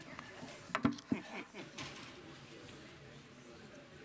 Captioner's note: crowd chattering